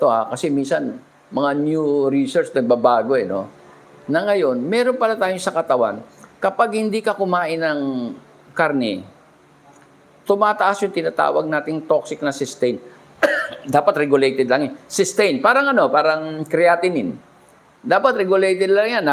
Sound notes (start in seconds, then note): 13.2 clears throat